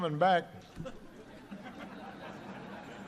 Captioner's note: laughter